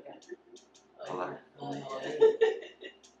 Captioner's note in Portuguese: Risos